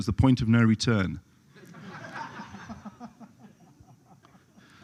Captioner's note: laughter